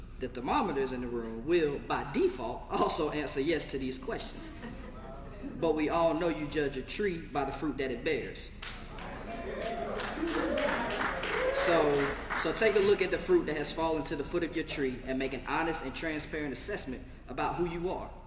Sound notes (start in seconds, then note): 4.4 laugh; 8.6 applause